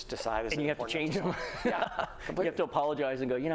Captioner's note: laughter